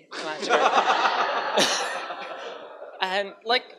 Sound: crowd laughs

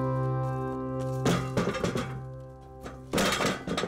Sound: loud bang

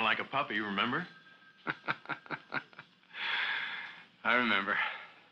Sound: laughing

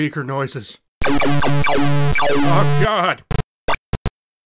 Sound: pc speaker noises blaring

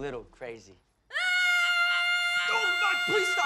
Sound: screams

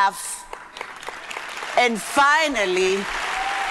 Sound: audience applauding

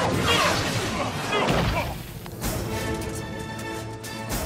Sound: groaning

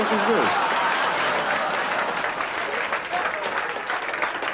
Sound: laughter

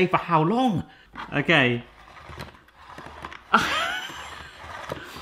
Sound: laughs

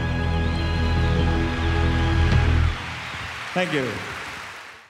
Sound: audience applauds and cheers

